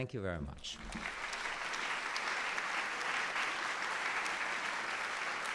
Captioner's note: audience applauding